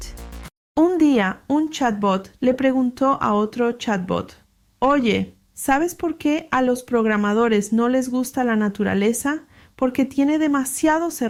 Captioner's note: Spanish